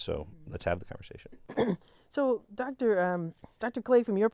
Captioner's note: cough